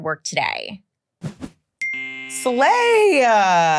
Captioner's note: air whooshing